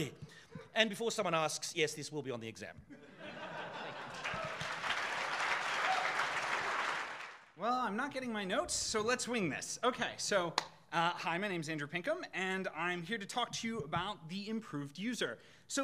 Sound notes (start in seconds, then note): 3.0 audience laughing; 3.9 audience applauding